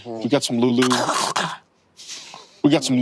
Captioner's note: Brennan gurgles